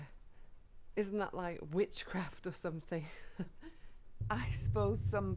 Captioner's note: giggles